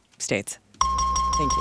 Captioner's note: buzzer